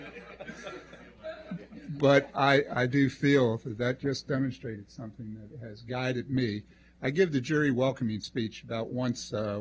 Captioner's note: laughter